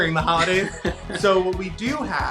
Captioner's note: laughs